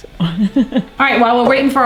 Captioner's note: laughing